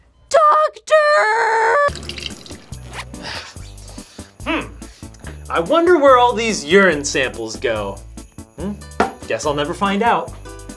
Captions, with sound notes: - [Voiceover] Doctor! (peeing) (zipper hisses) - I wonder where all these urine samples go. Guess I'll never find out.